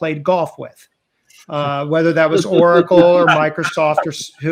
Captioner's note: everyone chuckling